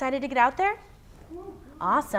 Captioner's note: light cheering